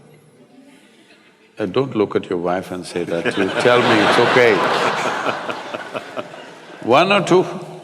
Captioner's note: laughter